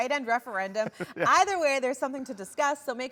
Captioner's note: laughs